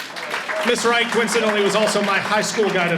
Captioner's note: audience applauds